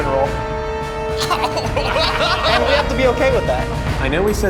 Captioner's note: group laughs